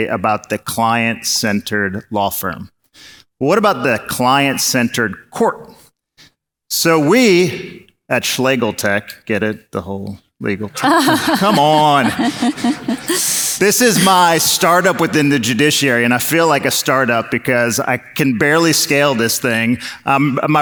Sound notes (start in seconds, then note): 10.7 audience laughs